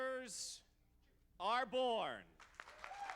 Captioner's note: applause